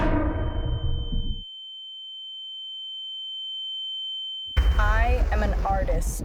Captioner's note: echoes; ominous musical score; high pitched tone; urgent music